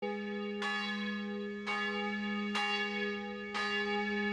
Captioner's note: bells ringing